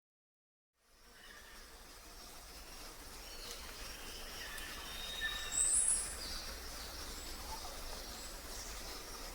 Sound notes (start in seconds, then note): 0.9 birds chirping; 0.9 crickets chirping